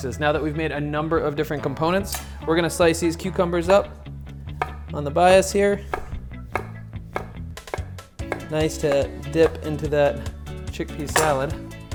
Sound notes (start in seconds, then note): 5.2 knife chopping